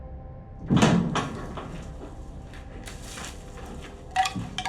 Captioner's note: massive door opening; wind chimes